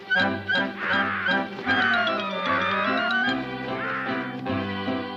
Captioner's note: ominous music; large bird squawking